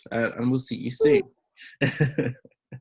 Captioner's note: chuckles